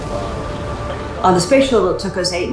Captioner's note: rocket roaring